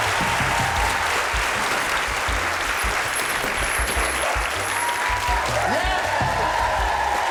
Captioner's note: laughter